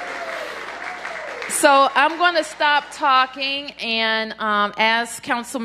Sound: applause

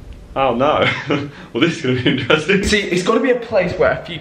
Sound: laughing

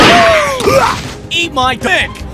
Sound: whack; pwaugh; thud

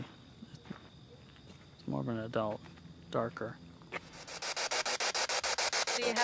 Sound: EVP screeching

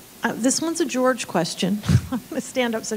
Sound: chuckles

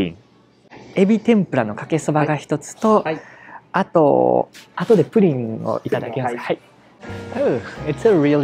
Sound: speaks in japanese

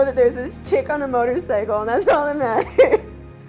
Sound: laugh

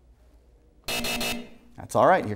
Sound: buzzer sounds

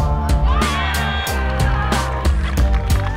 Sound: cheering

